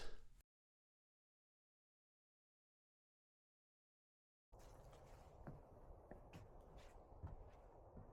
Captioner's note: wind blowing